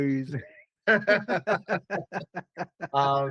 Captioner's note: laughing